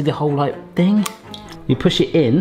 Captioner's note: egg cracking